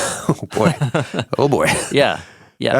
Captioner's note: person laughing